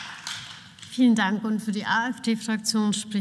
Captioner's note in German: Beifall